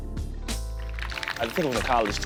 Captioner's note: audience applauding